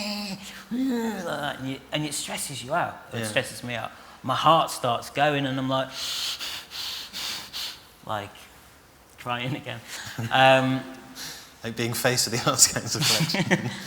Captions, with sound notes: [HE GROWLS] And it stresses you out. Well, it stresses me out. My heart starts going am I'm like... [HE SEETHES] Like...crying again! Um... Like being faced with the Arts Council collection!